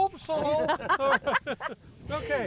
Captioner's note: laughing